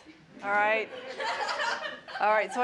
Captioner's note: laughter